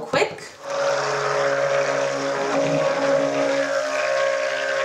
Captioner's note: blender whirring